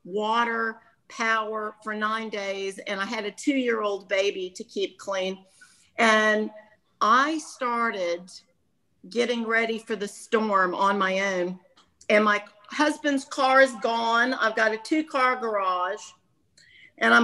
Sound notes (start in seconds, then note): none